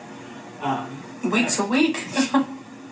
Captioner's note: laughs